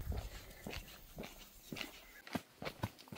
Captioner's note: none